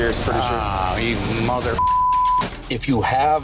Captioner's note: beep